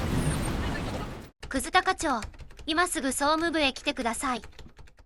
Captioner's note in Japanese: タイピング音